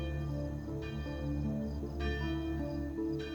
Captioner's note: church bell rings